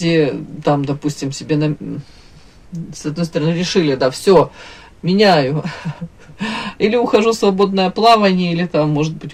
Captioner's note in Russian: смех